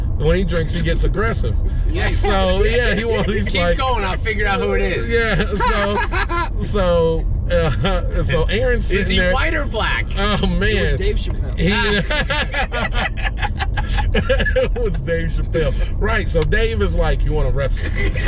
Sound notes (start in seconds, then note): 4.6 laughs; 11.6 laughter